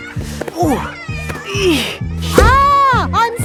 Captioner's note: grunting